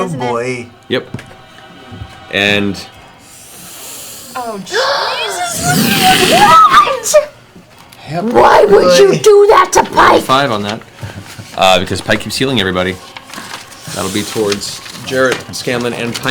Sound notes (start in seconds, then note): 3.2 inhales